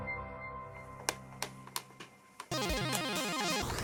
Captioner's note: keys clacking